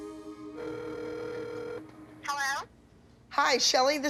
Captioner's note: line ringing